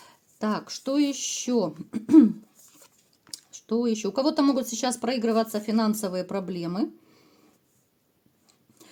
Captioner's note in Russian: откашливается